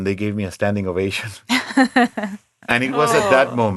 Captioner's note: laughing